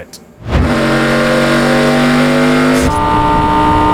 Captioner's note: engine roaring